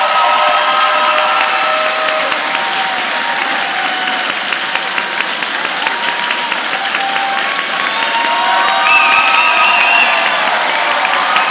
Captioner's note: applause